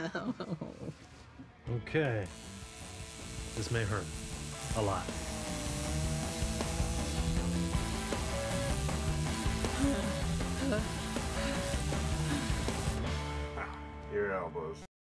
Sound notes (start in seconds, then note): 1.3 needle buzzing; 10.5 breathing heavily